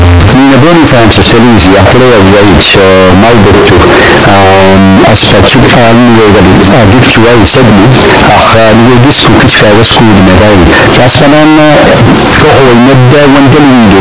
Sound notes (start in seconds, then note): 3.1 speaking alternate language